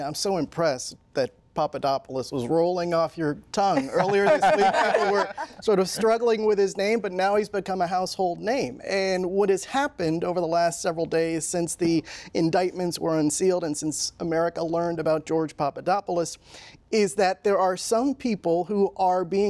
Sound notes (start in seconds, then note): 3.7 laughter